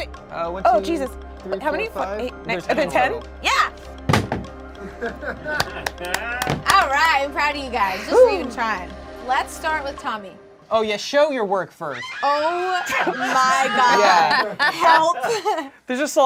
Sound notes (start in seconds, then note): 4.7 group laughs; 12.2 group laughs